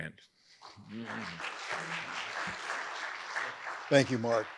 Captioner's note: audience applauds